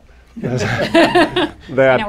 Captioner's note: laughter